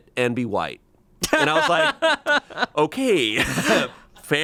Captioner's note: laughs